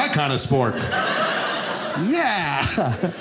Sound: audience laughing

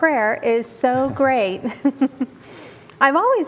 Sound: giggling

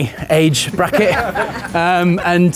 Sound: laughing

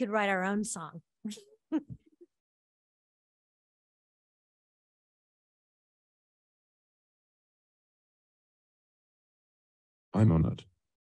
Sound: laughter

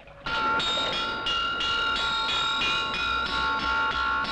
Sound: metal clanging

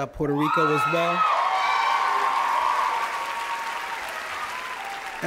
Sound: cheers and applause

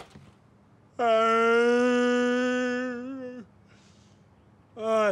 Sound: Rufus groans

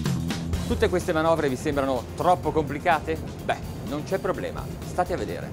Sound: speaking Italian

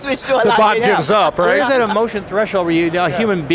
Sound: laughing

